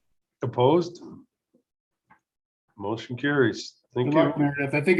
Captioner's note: silence